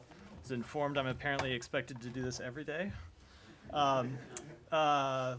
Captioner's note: laughter